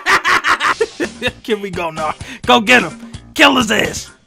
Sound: laughing

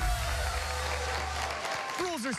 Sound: cheers and applause

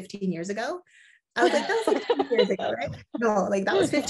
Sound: laughs

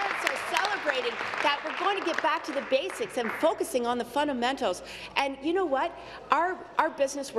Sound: applause

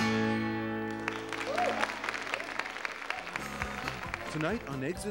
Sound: audience applauding

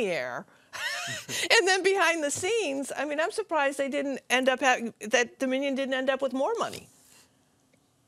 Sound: laughter

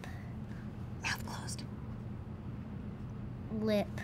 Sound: whispering

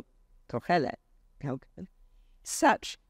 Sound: speaks foreign language

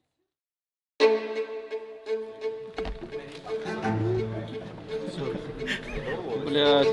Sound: bright music; people laughing; players speaking in Russian

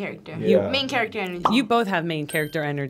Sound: bubble pops; bell dings

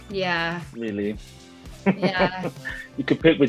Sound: laughs

